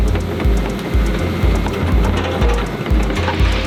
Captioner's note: heavy machinery